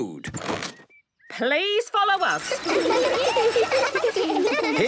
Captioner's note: laughter